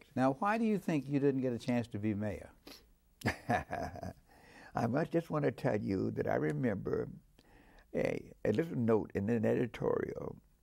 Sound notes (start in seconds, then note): 3.2 laughing